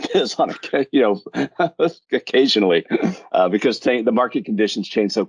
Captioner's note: laughs